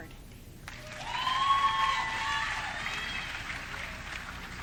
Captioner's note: audience cheering